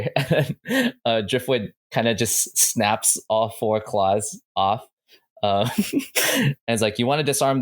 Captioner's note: laughs